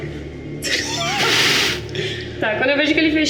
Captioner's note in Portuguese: risadas